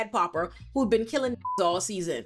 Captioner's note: beep